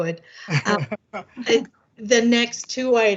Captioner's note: laughter